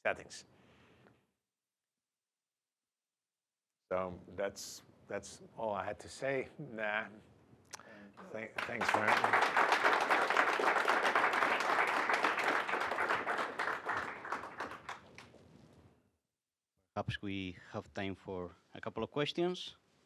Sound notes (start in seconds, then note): 8.2 applause